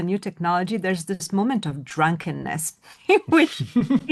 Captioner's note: laughs